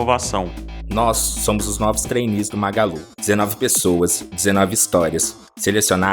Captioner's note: man speaking Portuguese